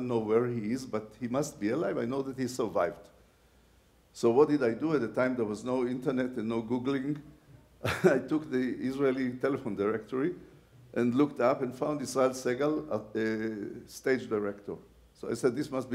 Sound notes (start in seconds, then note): 7.8 laughs